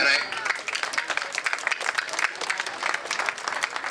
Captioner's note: crowd clapping